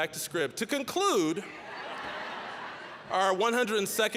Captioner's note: audience laughing